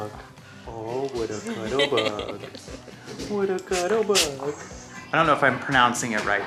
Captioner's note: laughing